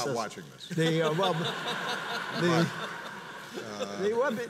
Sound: audience laughs

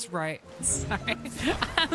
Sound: laughing

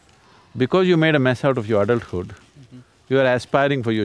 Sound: laughs

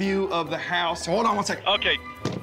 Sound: none

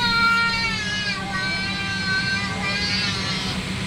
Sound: baby crying

